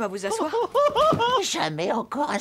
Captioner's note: sobs